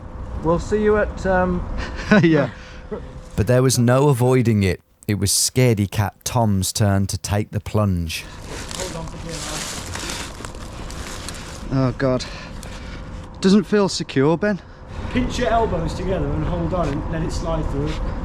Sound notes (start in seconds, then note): 2.8 laughs